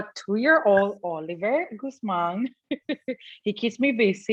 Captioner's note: laughs